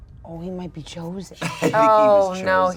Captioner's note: laughs